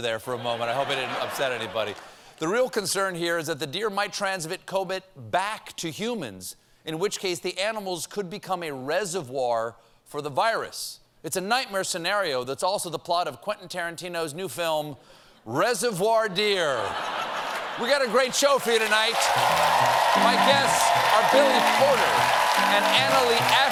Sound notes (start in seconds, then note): 16.7 laughter; 18.0 cheers and applause